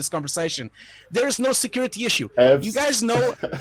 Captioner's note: laughing